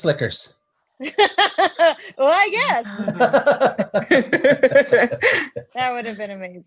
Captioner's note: laughs